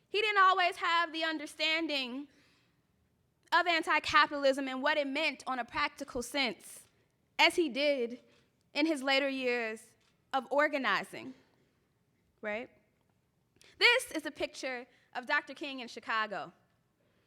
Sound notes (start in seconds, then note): none